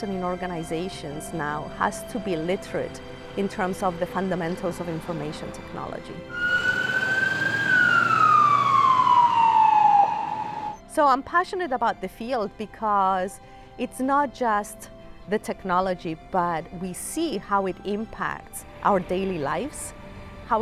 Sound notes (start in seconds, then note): 6.3 sirens